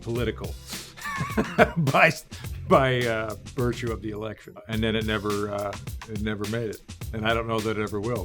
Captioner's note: laughing; laughing